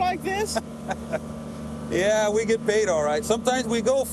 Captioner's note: chuckles